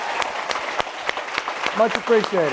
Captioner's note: applause